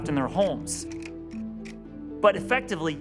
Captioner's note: slide shifting